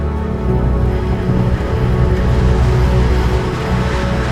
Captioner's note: wind noise increases